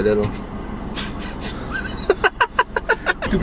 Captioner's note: maniacal pick-up truck owner laughter